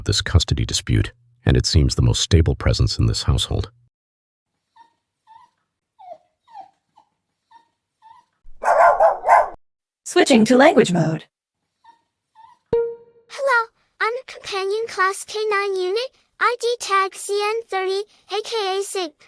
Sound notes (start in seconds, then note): 6.0 whimpering; 8.6 barking; 12.7 ping